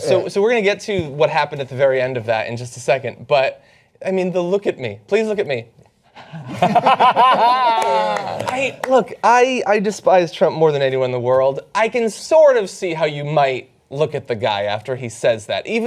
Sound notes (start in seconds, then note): 6.2 laughter